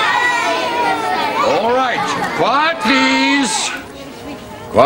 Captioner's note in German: Kinder schreien